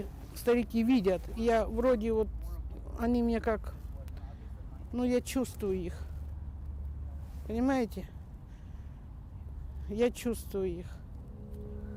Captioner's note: speaking Foreign Language